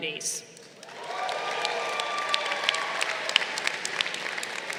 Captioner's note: crowd cheering